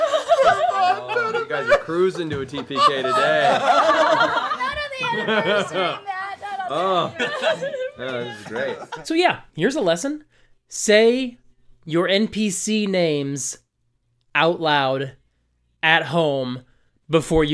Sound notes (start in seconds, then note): 0.0 giggling; 3.6 laughter